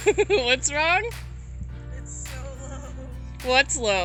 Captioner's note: laughs